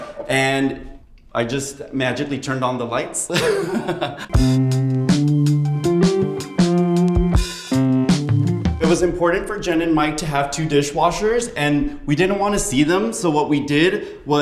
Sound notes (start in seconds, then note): 3.3 laughs; 4.1 upbeat music